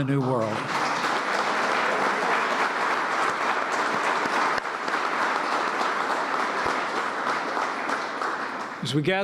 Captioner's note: applause